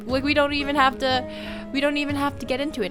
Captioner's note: deep breath